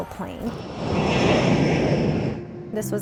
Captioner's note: howl of plane engines at take off